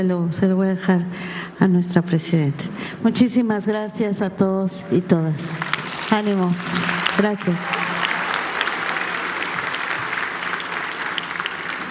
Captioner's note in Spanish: aplausos